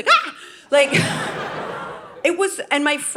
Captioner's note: audience laughing